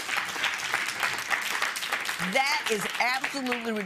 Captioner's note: applause